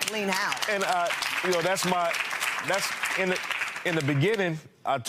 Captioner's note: audience applauding